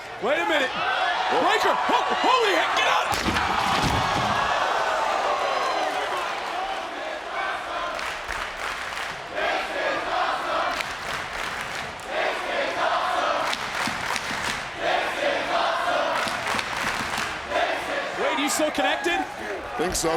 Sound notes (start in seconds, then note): 3.1 audience gasping; 3.2 body thudding; 6.9 audience chanting